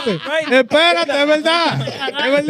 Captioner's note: speaking In Foreign Language